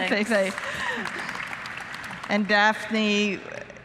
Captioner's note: applause